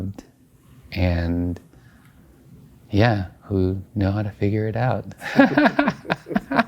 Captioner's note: laughing